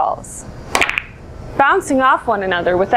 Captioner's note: crack